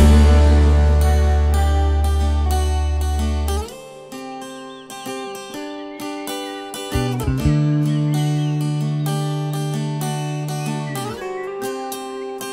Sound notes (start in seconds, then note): 4.1 guitar strumming; 4.5 bird tweeting